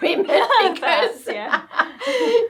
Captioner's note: laughing